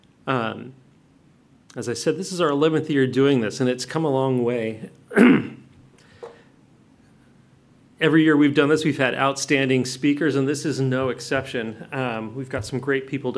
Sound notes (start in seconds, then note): 5.1 clears throat